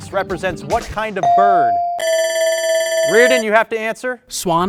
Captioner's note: bell rings